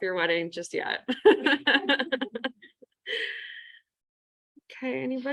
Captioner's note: laughs